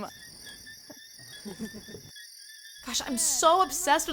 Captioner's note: bugs chirp